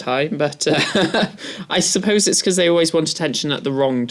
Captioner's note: laugh